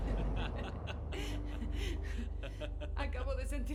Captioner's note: laughter